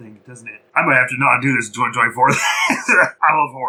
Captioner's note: wheeze-laugh